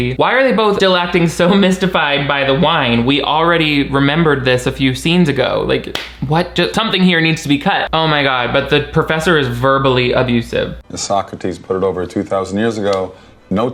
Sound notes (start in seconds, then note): 5.8 hands clapping